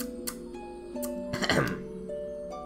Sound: ahem

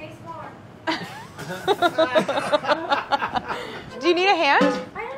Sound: all laughing

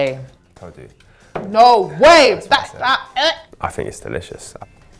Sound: gagging

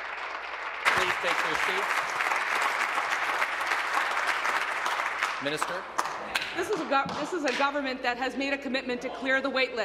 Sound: applause

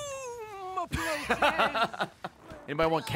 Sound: laughs

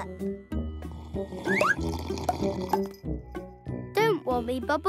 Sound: slurping

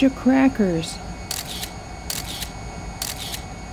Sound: a lot of camera clicks

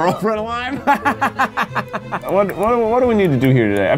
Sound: laughs

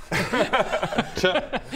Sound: laughs

